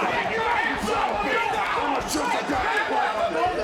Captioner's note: all yelling